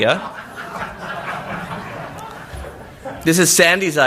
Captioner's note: laughter